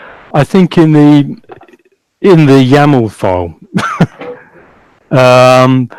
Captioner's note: laughs loudly